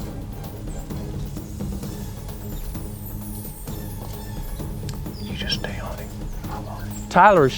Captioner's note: whispering